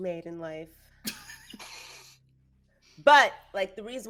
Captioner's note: people giggling